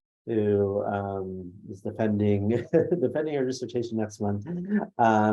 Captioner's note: laughs